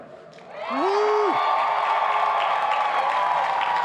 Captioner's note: cheers and applause